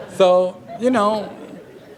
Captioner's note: laughter